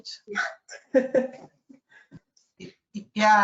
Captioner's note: laughs